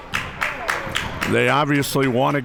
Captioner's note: crowd members clapping